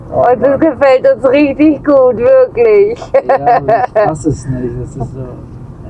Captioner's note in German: gelächter